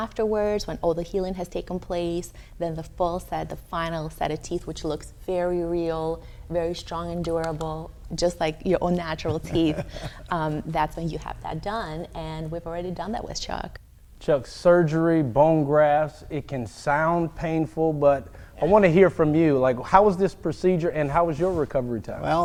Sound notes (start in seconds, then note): 9.2 laughing